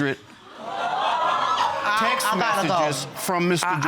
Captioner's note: audience exclaiming